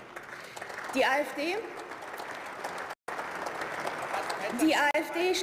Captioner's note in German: Beifall